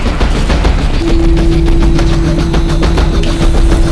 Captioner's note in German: Türen schließen